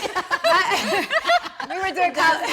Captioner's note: everyone laughing amusingly